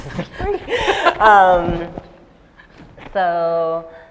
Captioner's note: laughter